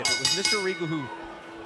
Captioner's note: bell ringing